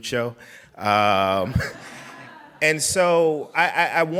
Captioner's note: laughing